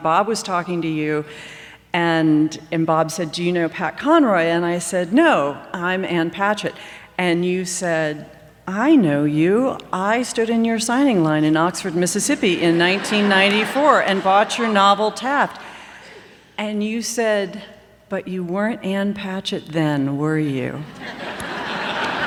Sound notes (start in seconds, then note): 12.7 laughter